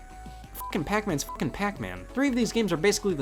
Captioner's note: beep